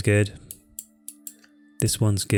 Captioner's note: clicks on mouse